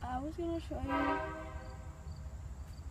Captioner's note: horn blares